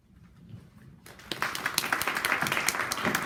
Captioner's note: clapping